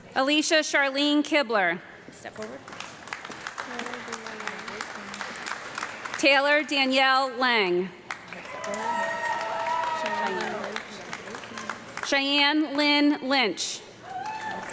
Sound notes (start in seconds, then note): 2.4 audience clapping; 8.0 audience clapping and cheering